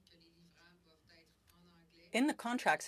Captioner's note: speaking french